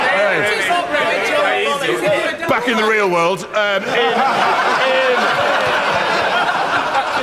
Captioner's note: laughter